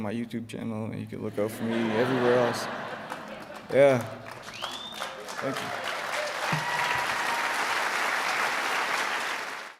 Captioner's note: applause